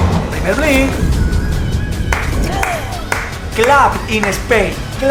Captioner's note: claps in Spanish